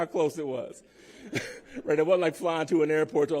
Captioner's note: laughter